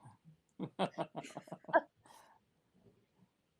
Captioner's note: laughter